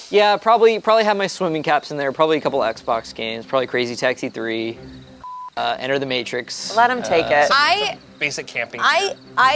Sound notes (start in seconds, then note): 5.2 beep